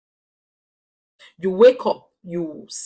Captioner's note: paause